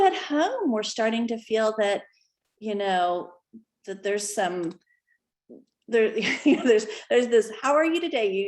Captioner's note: laughter